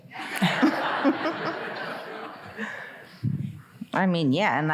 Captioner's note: audience laughing